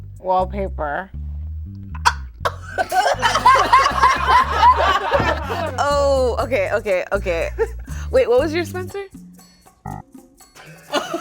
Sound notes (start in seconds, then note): 1.9 gasps; 2.4 group laughing; 9.7 alarm faintly beeps; 9.7 exciting music